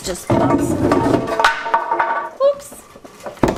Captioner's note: wood falling to the floor